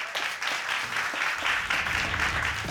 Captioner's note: audience applauding